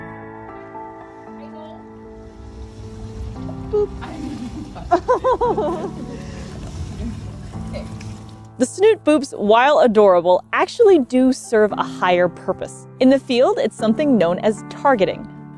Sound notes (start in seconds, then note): 0.1 background music; 3.5 laughs; 4.8 background music